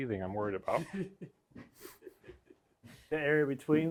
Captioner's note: people chuckling